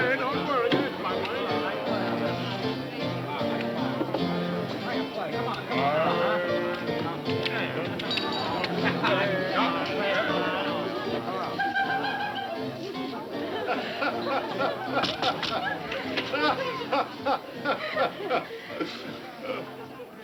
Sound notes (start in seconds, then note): 11.6 woman laughing; 13.5 man laughing